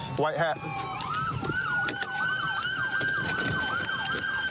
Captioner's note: siren wailing